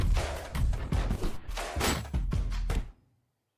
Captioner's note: metalic thud